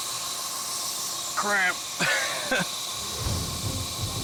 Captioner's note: chuckles; dramatic music